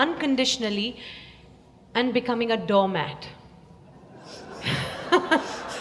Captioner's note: laughter